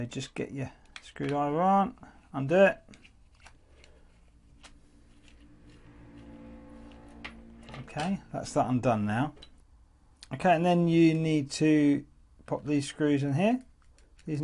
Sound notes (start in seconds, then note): 8.3 bang